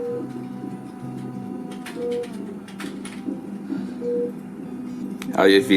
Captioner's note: machine beeping; gentle music